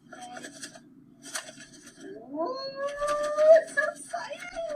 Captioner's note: rattling